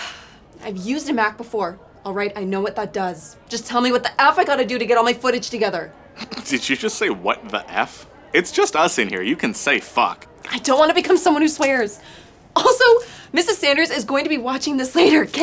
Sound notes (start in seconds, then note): 6.0 laughs